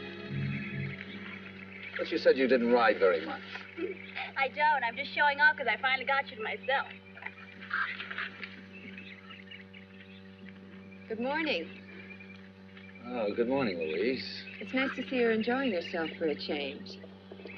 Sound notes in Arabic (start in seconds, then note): 7.7 حصان يركض بعيدًا